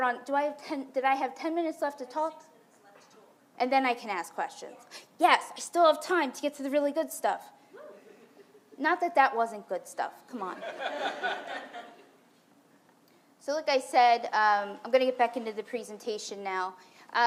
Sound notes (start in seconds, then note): 10.6 audience laughs